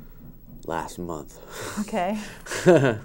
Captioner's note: laughs